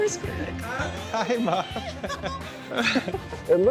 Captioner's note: both giggling; laughs